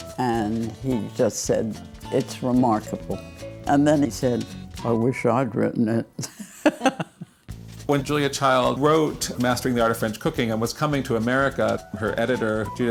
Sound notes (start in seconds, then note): 6.2 laughs